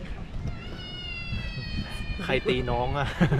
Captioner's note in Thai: แงงงงงง ¬.¬ เสียงเด็กร้องอยู่ข้างหลัง